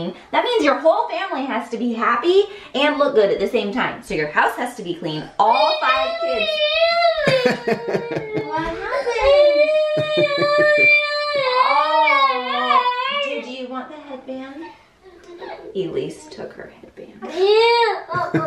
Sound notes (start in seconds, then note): 5.5 child crying; 9.7 crying